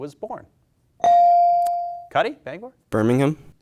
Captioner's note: bell dings